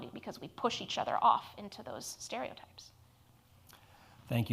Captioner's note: none